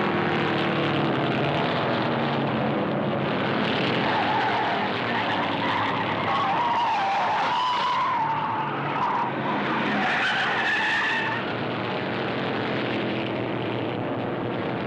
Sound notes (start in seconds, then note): 4.7 tires screeching